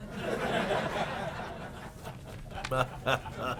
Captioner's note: laughter